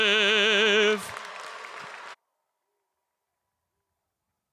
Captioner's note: audience applauding